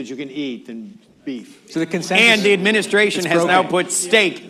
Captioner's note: laughter